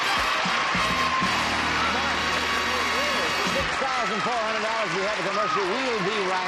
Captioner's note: applause